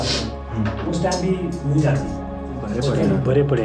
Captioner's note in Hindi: नाक से की जाने वाली आवाज़